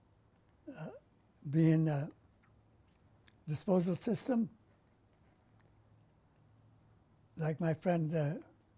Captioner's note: pauses for 3 seconds; pauses for 3 seconds